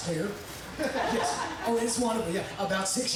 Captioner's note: audience laughing